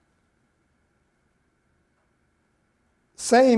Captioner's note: none